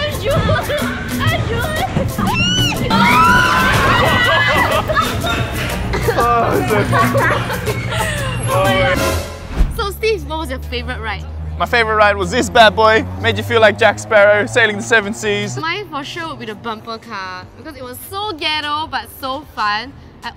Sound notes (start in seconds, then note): 2.3 screams; 6.2 groans